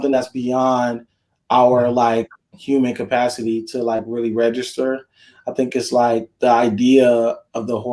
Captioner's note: none